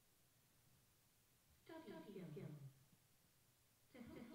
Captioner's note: voiceover